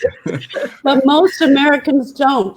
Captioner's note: laughter